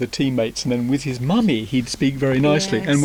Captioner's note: imitates the “posh” accent”; resumes “normal” accent